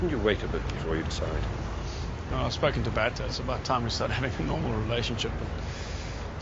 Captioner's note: none